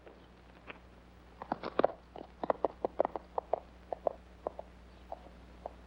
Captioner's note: hooves trotting away